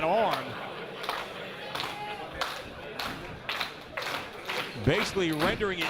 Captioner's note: applause